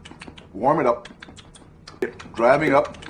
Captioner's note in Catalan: Sons de mastegar